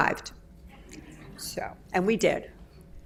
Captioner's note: audience laughs